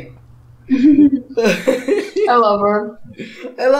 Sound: laughter

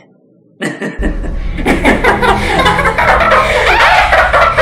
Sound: hysterical laughing

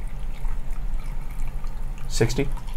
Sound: liquid sloshing

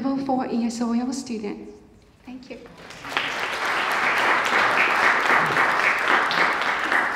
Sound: applause

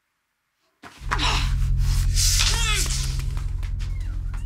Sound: grunts; ominous music

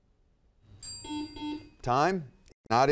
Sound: bell ringing

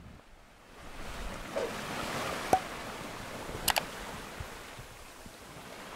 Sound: waves rocking against the boat

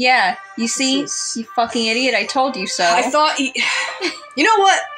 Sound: chuckle; sigh

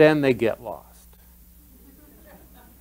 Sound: laughter

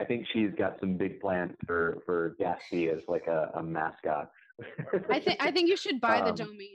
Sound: laughs

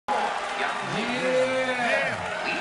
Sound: crowd cheering

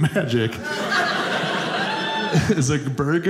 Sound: audience laughing

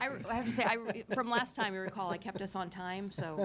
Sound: laughing

